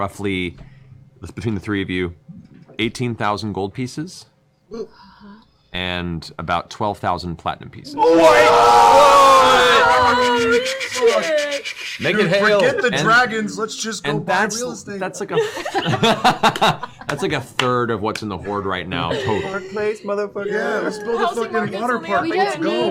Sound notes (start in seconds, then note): 7.9 yelling